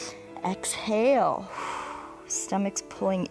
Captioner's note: exhales